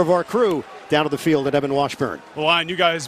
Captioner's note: cheers and applause